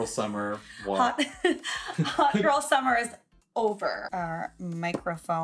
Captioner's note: laughs